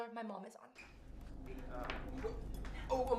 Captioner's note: rustling; humming